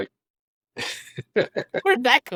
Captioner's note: laughs